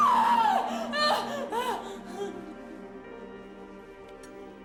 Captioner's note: crying